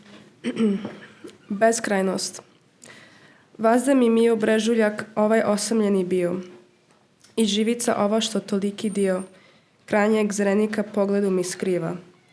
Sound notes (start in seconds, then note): 3.4 Serbo-Croatian translation of L'Infinito is recited